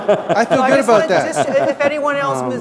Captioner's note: laughter